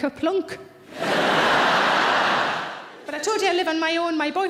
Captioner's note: audience laughing